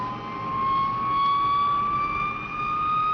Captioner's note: plane whirring